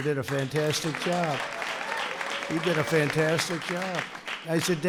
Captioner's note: applause